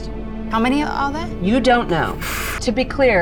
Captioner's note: player exhaling sharply